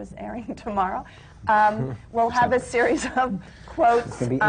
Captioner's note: laughs